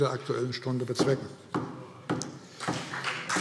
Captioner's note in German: Beifall CDU und SPD